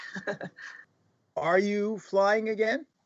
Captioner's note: laughter